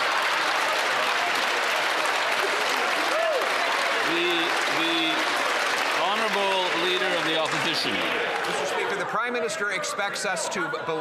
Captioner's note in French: applaudissements; voix de l'interprète